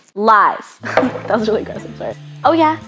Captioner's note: laughing; thudding